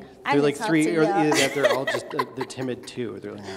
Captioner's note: laughing